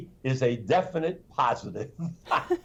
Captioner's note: laughter